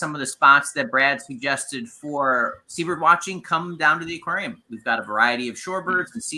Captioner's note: none